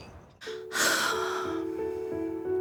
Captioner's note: sighs